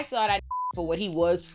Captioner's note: beep